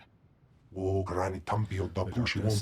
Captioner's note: speaking foreign language